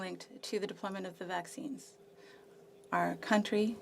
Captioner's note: speaking French